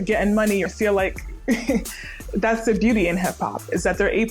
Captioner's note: chuckles